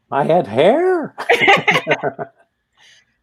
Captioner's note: laughter